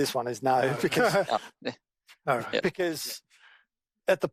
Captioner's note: men laugh